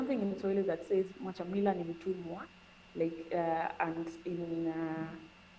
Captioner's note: speaking in Swahili